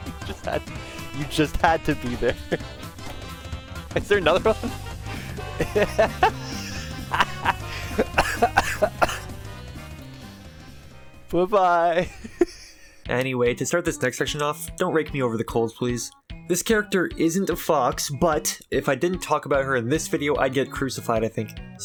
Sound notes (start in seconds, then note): 5.0 stupid idiot laughing; 12.0 last bit of laughing